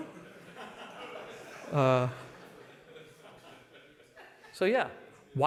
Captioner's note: laughter